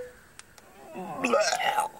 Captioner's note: man vomits